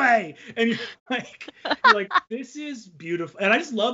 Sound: both laughing

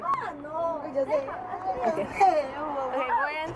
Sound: indistinct excitement continues

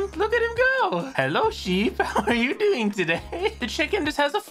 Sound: through laughter

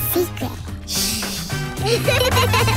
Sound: laughing

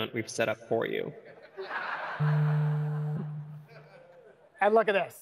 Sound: laughter

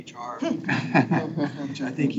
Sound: people chuckle

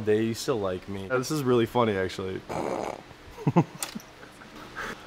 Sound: snickers

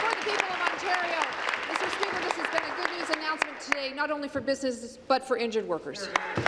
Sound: applause

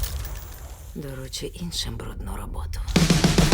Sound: gunshot; hissing; whispers

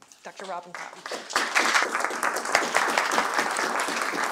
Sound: applause

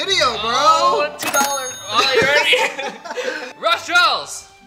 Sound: laughter

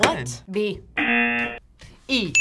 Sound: buzzer; bell rings

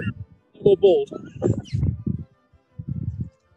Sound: giggling; laughter

